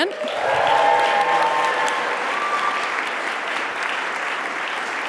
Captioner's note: audience applauding